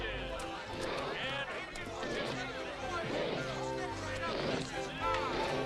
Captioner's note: elephant snuffling; playful accordion music